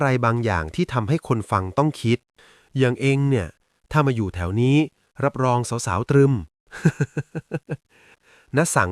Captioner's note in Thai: เสียงหัวเราะ